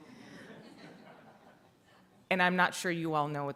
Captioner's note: audience laughing